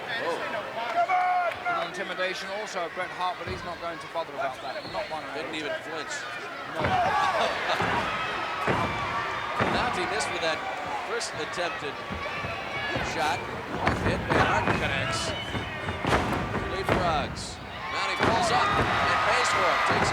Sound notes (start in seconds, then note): 6.3 blows thudding; 7.9 laughs